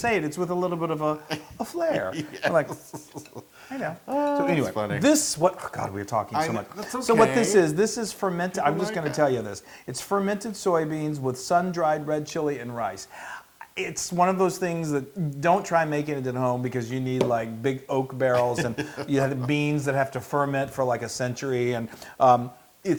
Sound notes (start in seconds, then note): 1.2 laugh; 18.3 laugh